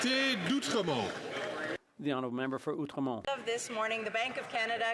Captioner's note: some Applause